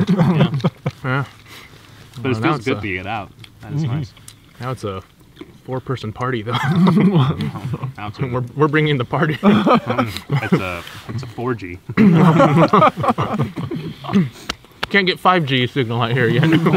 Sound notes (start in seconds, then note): 9.1 all laugh